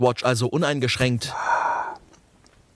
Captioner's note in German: Zufriedenes Stöhnen